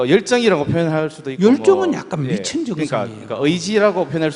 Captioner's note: audience Laughter